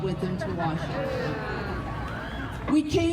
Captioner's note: crowd booing